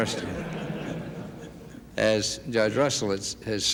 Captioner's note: laughter